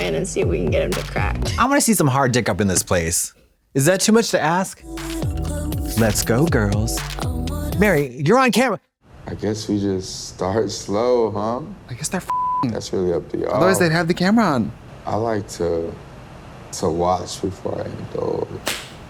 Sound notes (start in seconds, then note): 12.3 beep